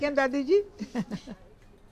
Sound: giggling

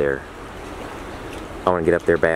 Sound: more ocean noises

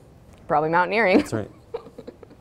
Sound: laughs

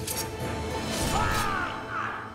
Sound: Hançer sesi

